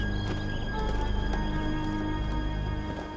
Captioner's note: footsteps